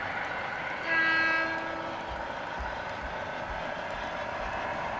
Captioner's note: horn blowing